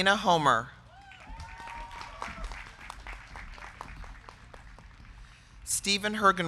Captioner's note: crowd cheering; crowd clapping